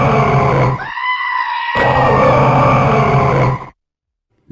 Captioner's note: screams